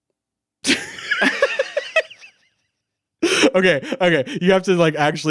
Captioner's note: laughing